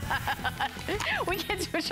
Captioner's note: laughter